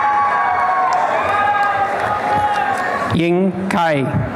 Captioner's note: applause and cheering